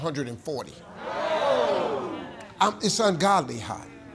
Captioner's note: audience shouting